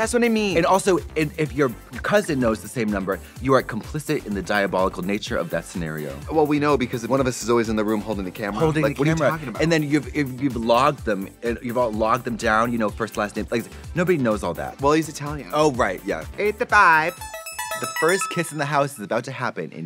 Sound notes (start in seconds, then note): 16.7 Italian accent; 17.0 musical flourish